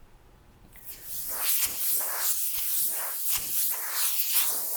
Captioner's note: air spraying